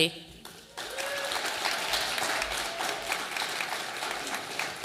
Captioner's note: audience applauding